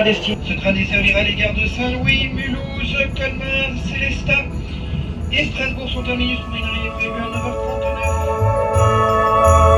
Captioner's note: train announcement in French, listing the next few stations